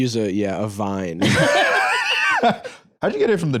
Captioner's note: laugh